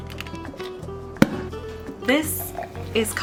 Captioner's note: cork pops